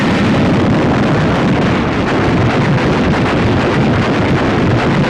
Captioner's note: fire roaring